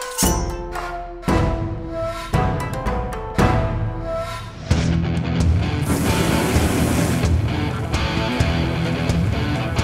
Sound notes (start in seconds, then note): 0.0 knife clinks; 4.7 energetic rock music; 5.8 fire sizzles